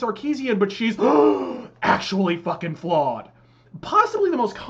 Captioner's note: gasp